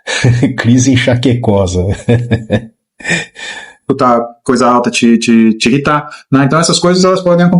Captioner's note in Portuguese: risadas